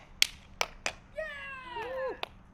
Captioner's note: cheering